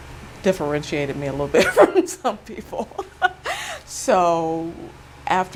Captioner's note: chuckles